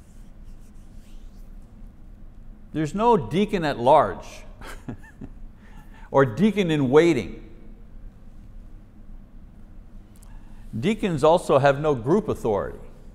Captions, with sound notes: There's no deacon at large, [chuckles] or deacon in waiting. Deacons also have no group authority.